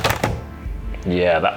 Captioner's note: scale clatters